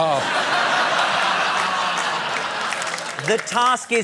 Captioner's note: laughter, applause